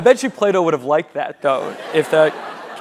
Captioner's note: laugh